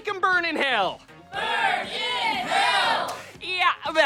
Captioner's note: chanting